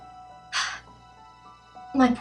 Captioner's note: sigh